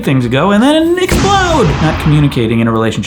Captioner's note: bangs